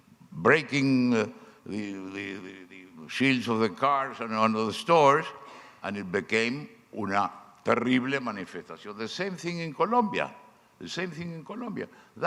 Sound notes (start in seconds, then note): 7.5 speaking foreign language